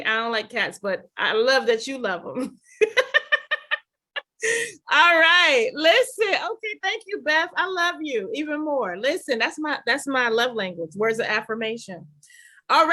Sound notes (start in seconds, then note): 2.6 laughing